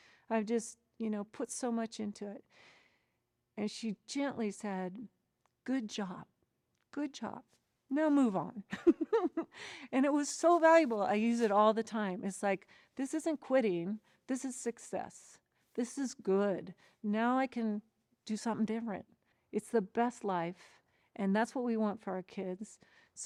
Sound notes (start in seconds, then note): 9.2 laughs